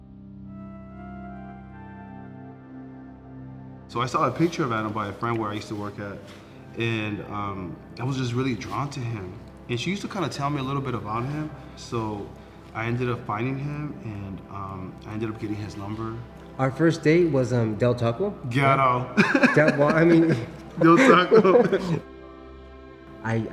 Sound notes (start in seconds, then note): 0.1 bright ambient music; 19.1 chuckles; 21.9 both laughing